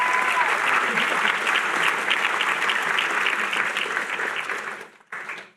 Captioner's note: applause